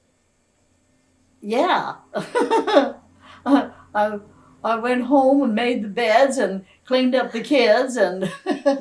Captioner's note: laughs